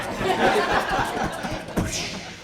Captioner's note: laughter